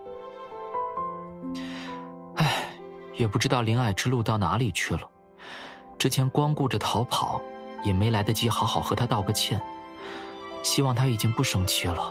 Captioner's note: sigh